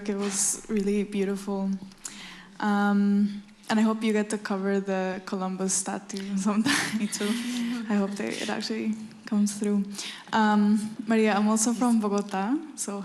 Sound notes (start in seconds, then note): 6.6 laughs